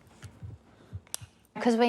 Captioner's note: click!